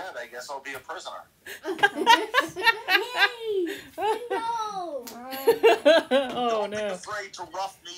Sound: laughter

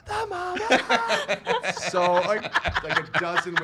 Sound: laughing

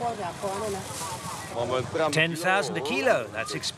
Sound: speaking foreign language

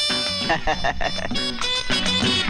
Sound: laughs

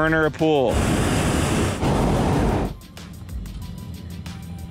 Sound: loud flame from burner

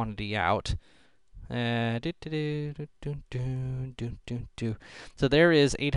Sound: humming

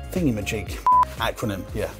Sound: beeps

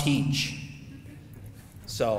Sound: audience laughing

